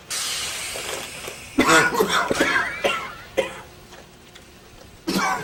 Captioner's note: coughing